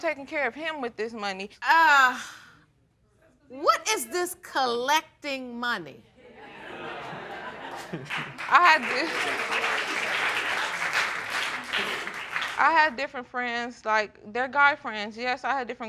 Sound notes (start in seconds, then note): 6.4 snickers; 6.4 audience laughs